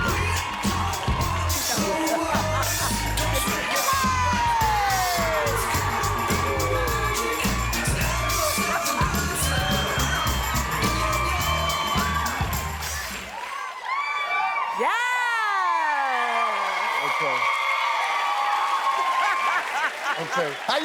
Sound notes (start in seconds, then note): 0.0 audience applauding and cheering; 1.7 both laughing; 5.9 audience cheering; 10.0 audience continues applauding and cheering; 13.1 audience cheering; 16.0 audience cheering; 18.2 audience applauding and cheering; 19.3 laughs